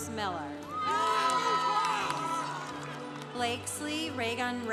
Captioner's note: congregation applauding